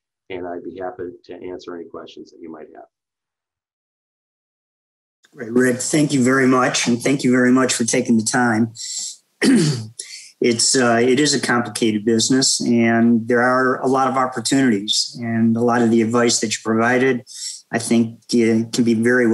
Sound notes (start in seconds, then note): 9.4 cough